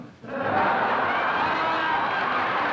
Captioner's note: laughter